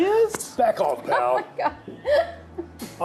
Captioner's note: laughs